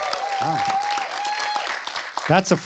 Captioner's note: applause